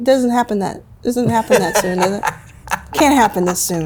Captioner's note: laughs